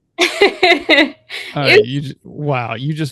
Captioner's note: laughs